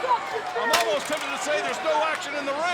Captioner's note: crowd chatter